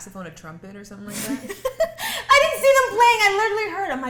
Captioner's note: laughing